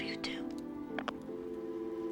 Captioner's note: receiver clicking